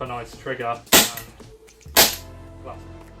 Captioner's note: gun shoots BANG-- BANG